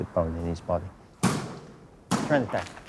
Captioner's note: banging